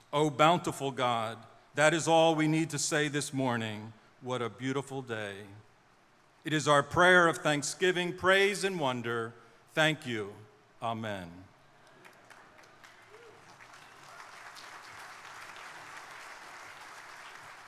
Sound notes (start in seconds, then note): 12.0 crowd members cheering; 14.6 crowd applauding